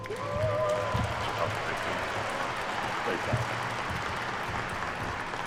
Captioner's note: attendees cheer and clap